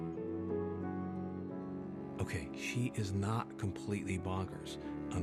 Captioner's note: narrating